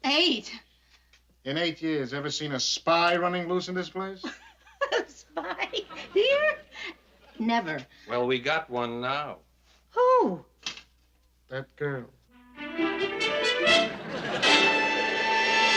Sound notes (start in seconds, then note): 4.7 laughing; 12.3 theme music playing